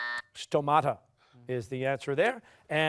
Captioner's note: buzzer